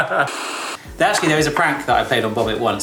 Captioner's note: they laugh; static hisses